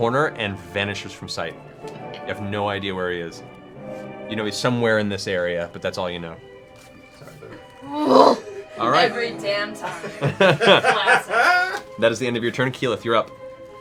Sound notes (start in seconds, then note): 7.2 groans; 9.8 laughter